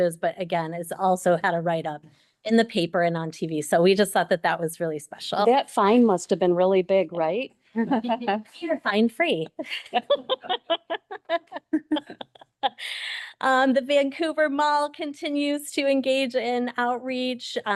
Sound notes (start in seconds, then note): 7.8 chuckles; 9.4 chuckles